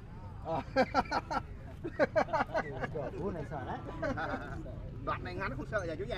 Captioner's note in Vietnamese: Tiếng cười